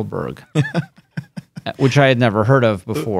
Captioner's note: laughing